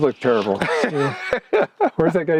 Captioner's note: laughs